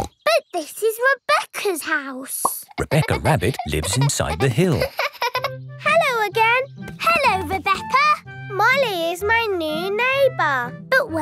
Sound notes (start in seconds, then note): 5.0 laughing